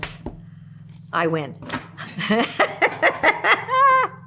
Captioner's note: laughs